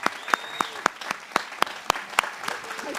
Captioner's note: applause